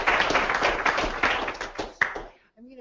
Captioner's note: clapping